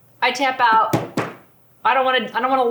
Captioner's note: taps table